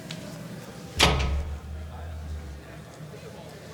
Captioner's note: door slams shut